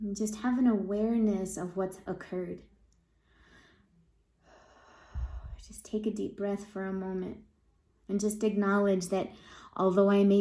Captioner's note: breathing